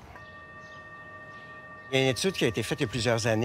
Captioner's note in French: tintement